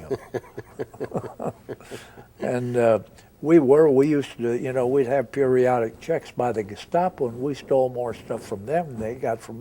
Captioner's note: both chuckle